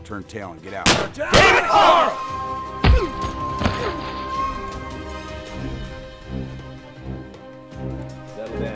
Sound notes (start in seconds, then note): 0.8 gun firing; 2.2 yelling; 5.3 dramatic music